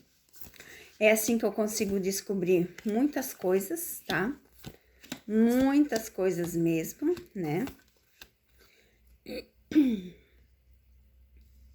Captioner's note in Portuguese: limpando a garganta